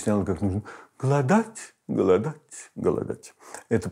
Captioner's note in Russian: изображает манеру речи с предыханием